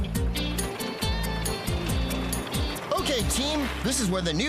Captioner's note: chattering; engines Running